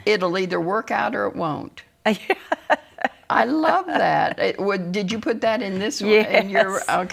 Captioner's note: laughs